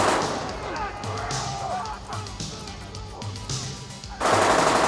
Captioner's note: all shouting